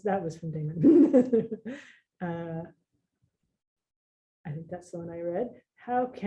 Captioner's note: laughs